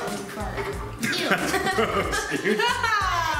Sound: laugh

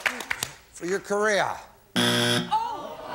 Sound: buzzer

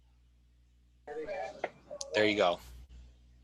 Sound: phone chatters

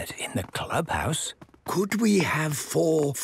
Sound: speaking quietly

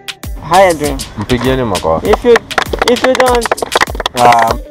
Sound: clapping

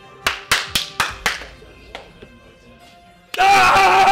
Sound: coach claps and YELLS

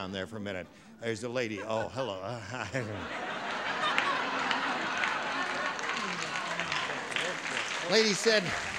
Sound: laughter

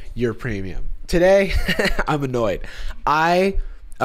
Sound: chuckles

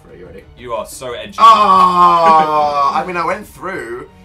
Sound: laughs

